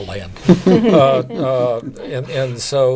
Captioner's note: laughing